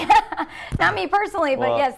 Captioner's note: laughing